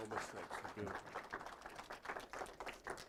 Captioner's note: applause